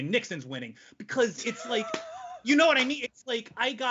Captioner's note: chuckles